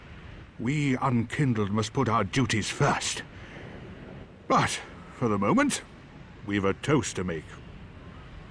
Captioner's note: none